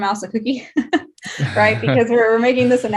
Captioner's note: laughing